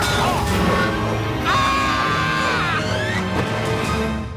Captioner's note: screaming